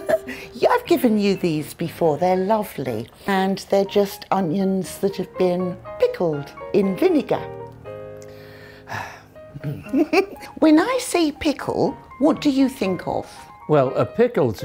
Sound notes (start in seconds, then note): 8.3 sigh